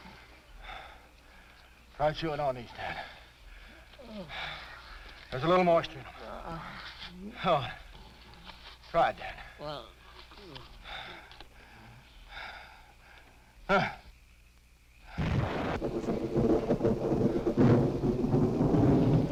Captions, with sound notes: - Try chewing on these, Dan. There's a little moisture in 'em. (Dan groaning) Go on, try it, Dan. (Dan groaning) (Quent gasping) (thunder rumbling)